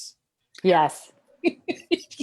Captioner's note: laughs